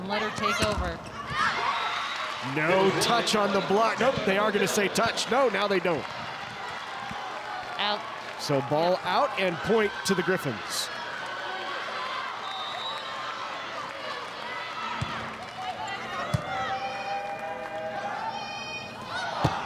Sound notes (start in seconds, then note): 1.8 audience cheering; 15.0 ball thumping; 15.5 players shouting indistinctly